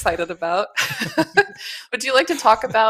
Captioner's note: chuckling